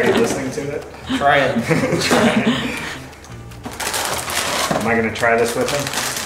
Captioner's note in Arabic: مجموعة تضحك